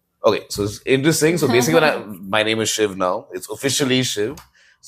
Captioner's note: laughs